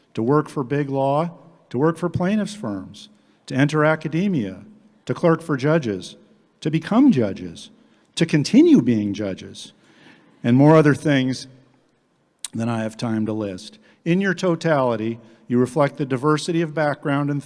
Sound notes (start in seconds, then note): none